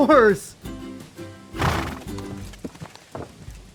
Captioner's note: disgusted snort